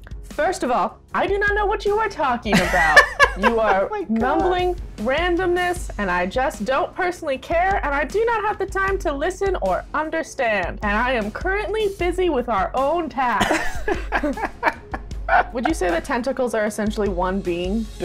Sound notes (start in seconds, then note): 5.2 laughter; 13.4 laughter